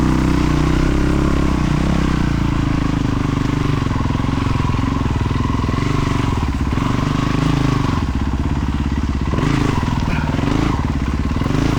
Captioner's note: engine revving